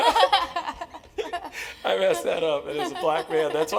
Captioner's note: laugh